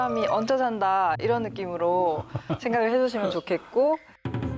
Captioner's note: forced laugh